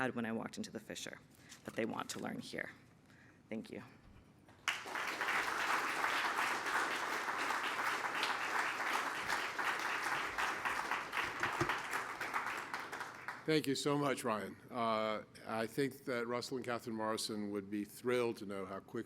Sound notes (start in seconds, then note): 6.9 applause